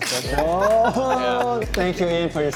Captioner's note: people laughing